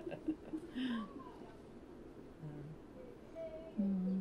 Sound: laughs

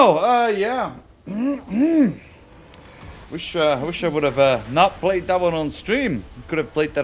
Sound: cough

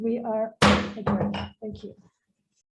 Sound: gavel thumping

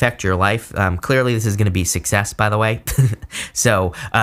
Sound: laughs

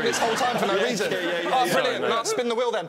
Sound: laughing; loud chattering

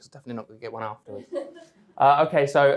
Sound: audience chuckling

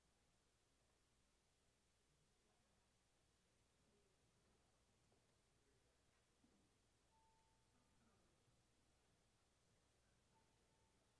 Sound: bells ringing

